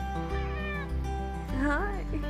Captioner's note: meows; meows again